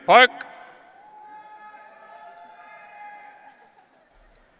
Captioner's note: audience cheering